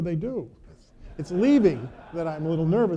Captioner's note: audience laughing